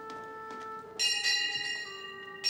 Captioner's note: bell ringing